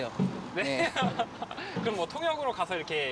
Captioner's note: chuckles